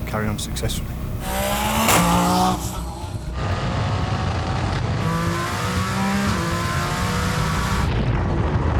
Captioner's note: engine Revving